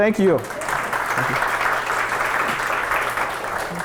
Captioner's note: applause